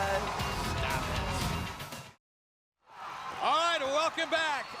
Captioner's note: crowd cheering